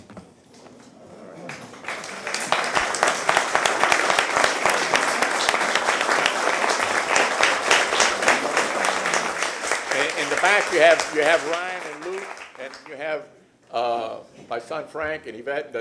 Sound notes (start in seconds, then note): 5.1 applause